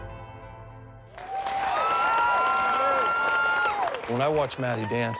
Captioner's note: cheering and applause